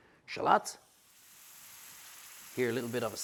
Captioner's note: pan sizzles